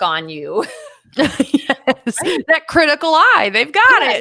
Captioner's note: both laughing